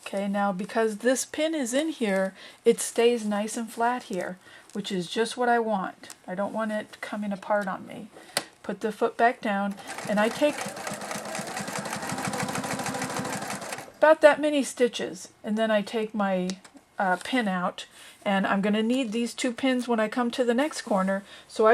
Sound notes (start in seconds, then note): 9.7 sound of sewing machine